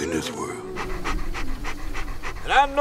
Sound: dog panting

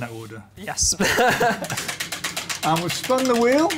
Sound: laughter

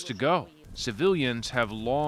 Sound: speaking alternate language

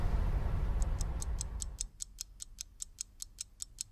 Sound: clock ticking rapidly

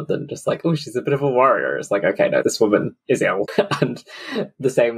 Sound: laughs

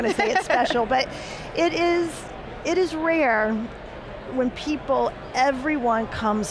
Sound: laughs

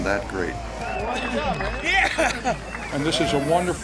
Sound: crowd cheering

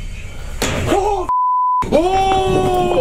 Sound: beep

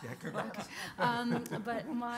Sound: panelists laughing

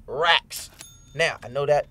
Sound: register dinging

